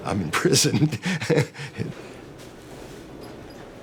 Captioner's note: laughing